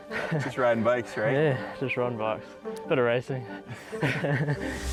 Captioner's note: laughs